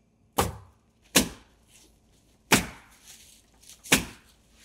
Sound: nail gun bangs

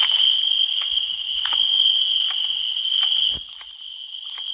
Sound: crickets still chirping

